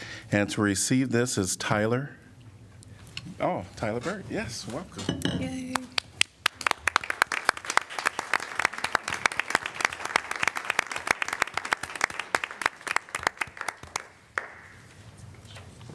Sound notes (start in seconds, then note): 5.3 applause